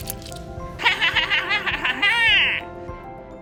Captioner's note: mischievous laughter